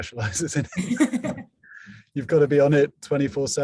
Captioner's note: both laugh